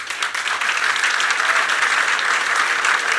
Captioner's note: applause